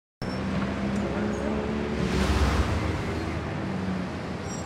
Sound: car engine revs

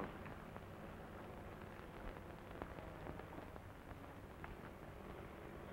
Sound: airplane engine rumbling

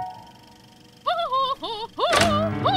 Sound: laughing

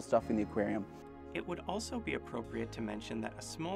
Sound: voiceover

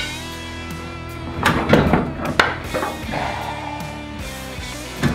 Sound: clunking metal

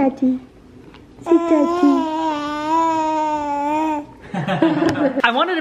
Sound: baby cooing; chuckling

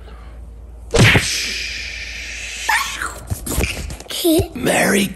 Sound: fists thud; swooshing

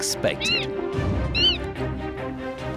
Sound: manatee squeaks

